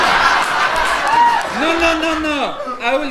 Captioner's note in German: Französischer Akzent